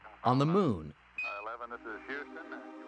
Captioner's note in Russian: Мужской голос по радио